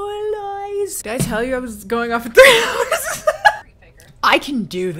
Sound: laughing

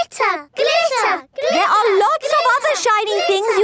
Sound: chanting

